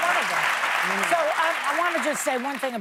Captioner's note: applause